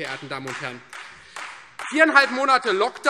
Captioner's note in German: Beifall Freie Demokraten